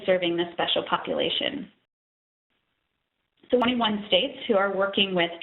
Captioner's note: audio dropping